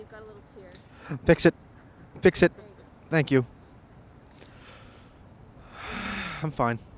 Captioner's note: heavy sigh